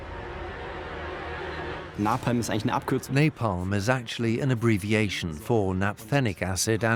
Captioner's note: dubbed in English